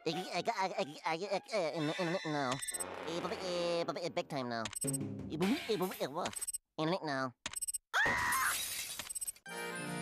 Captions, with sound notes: [stuttering] NO. BIG TIME NO. [stutters] NO. [screaming]